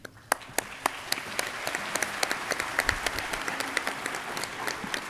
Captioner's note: audience clapping